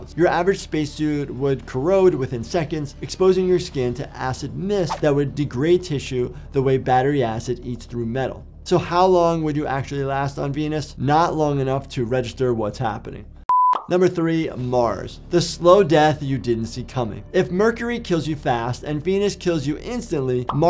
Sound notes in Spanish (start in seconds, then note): 13.5 pitido gráfico